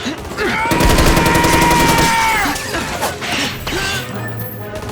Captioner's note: yells